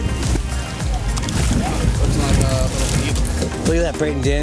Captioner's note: water splashing